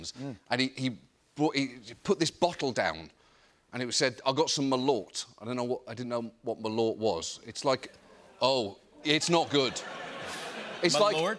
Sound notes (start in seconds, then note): 7.8 audience groans; 9.4 laughter